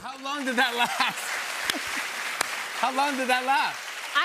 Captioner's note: applause